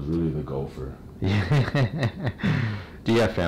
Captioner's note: laughing